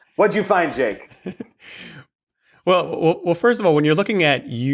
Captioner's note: laughs